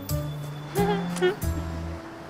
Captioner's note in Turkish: Gülme sesi